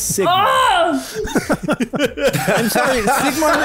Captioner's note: laughter